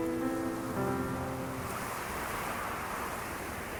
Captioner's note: wind blowing